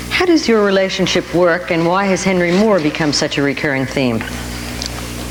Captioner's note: none